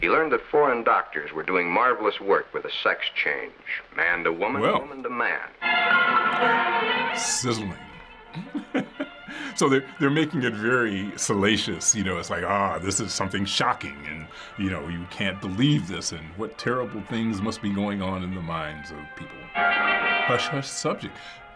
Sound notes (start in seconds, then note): 0.0 voice-over; 8.3 laughs